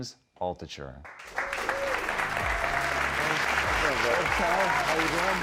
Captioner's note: audience cheering